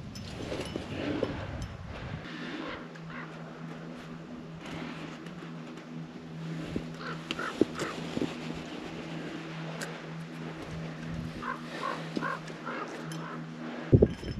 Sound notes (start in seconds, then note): 6.9 crows cawing